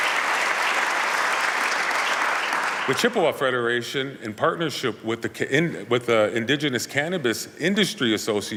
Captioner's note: applause